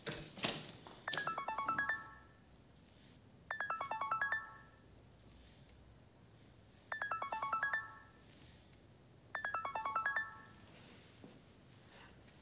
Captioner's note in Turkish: telefon çalar